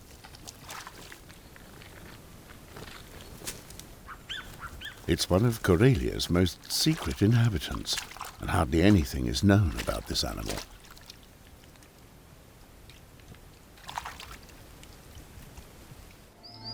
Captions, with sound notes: [bird chirps] It is one of Karelia's most secret inhabitants and hardly anything is known about this animal.